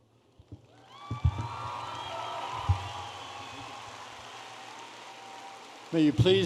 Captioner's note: audience applauding and cheering